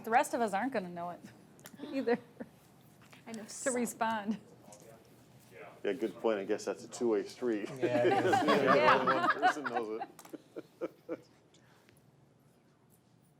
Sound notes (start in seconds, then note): 7.8 all laugh